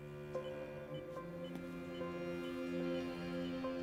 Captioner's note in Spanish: suena música sombría; pitido rítmico